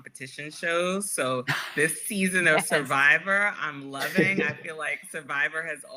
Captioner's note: laughter